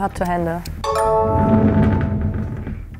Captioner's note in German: Klingeln